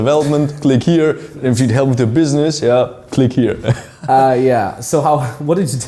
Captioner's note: laughs; laughs